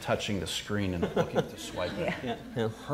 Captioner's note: all chuckling